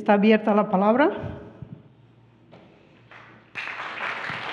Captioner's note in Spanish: Aplausos